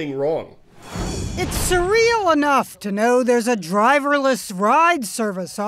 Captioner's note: voice-over